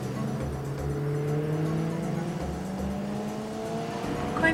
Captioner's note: engine revs